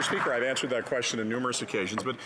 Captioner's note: some Applause